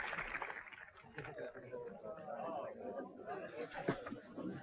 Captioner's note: people chattering